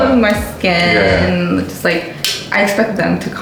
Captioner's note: laughs